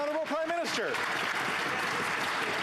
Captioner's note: applause